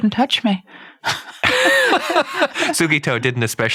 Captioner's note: both laughing